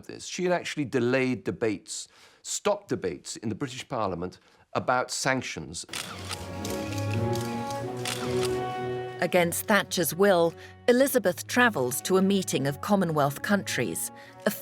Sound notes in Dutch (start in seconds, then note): 5.9 camera's klikken; 8.8 langzame muziek